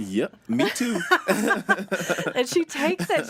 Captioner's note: laughing